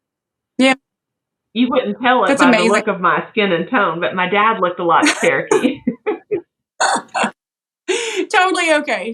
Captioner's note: laugh